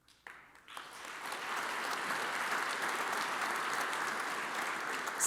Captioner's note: audience applauds